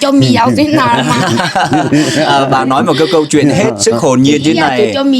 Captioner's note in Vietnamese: tiếng cười